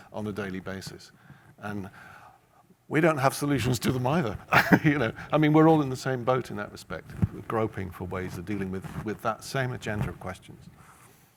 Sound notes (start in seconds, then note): 4.5 laughs